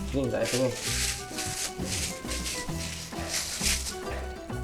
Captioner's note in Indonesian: Suara plastik kresek